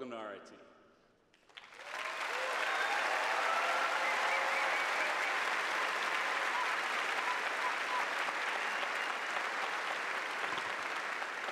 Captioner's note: cheers and applause